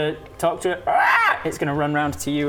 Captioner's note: caw